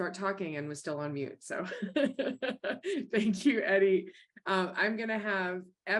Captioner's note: chuckles